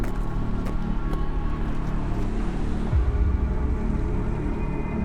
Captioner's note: faint traffic noise; ominous music